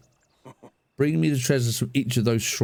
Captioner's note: chuckles